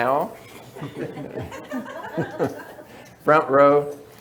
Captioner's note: audience chuckles